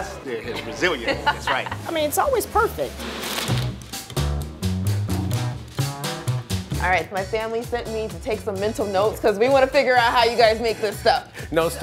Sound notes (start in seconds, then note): 1.0 laughs; 3.1 cajun music; 3.1 wax paper rustles